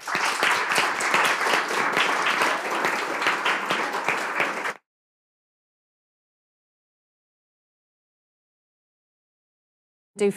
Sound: applause

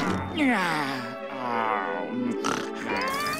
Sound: sighs

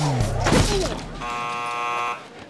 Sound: buzz sounding

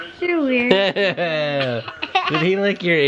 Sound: laughs

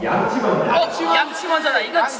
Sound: all shout out brush first

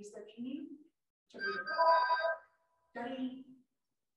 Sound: message alarm ringing

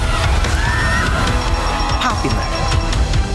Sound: kids screaming

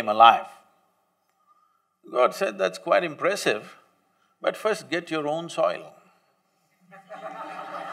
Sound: laughter

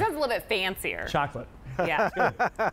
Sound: laughter

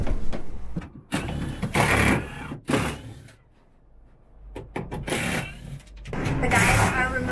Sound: power tools

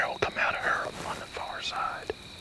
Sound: whispering

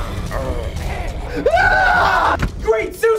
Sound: zombies growl; both scream

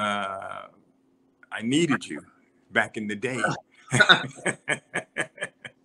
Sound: laughter

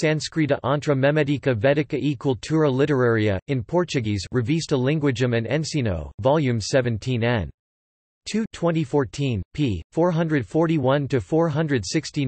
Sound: in Portuguese

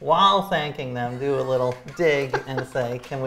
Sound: laughs

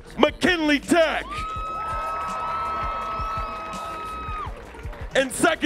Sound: audience cheering

